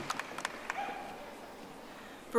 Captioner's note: audience applauding